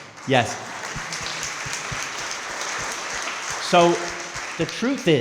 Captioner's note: crowd clapping